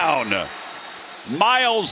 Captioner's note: whistle blowing